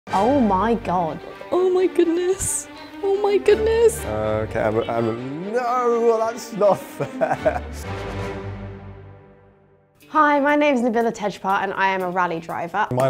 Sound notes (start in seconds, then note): 6.6 laughs; 7.8 dramatic instrumental music